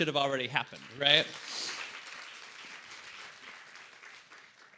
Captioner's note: applause